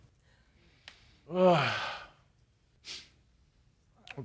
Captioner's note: sighs